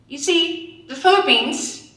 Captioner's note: none